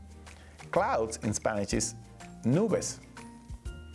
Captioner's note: speaking Spanish